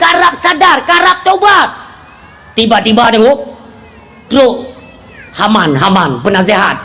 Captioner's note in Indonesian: berteriak